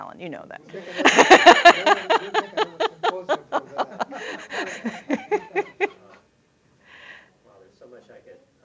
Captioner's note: laughter